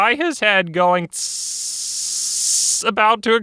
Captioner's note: ssssssss